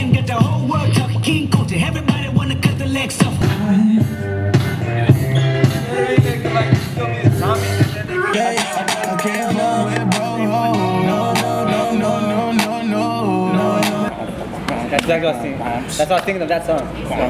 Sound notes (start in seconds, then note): 0.0 chill hip hop music continues; 3.4 chill rock music; 8.2 upbeat hip hop music; 14.2 crew member humming